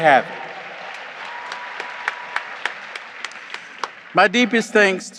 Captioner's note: audience applauds